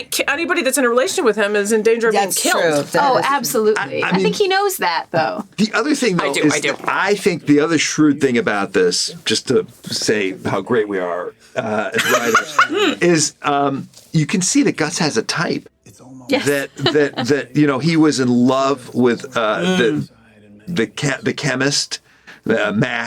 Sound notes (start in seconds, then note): 11.6 laughs; 16.4 chuckles